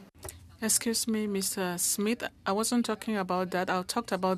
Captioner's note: speaking French